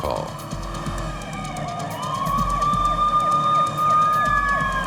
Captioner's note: sirens